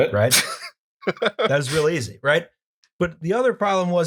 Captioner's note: laughter